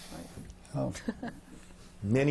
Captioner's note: laughs